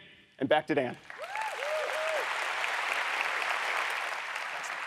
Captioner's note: audience applauds